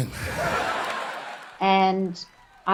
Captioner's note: audience laughing